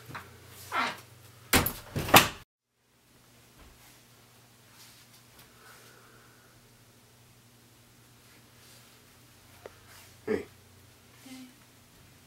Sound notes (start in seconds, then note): 1.5 door closes